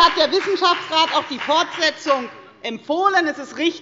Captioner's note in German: Beifall bei der FDP